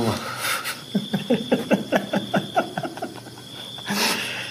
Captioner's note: both men laughs